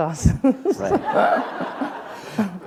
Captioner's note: laughter